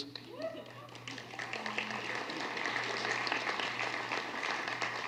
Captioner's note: applause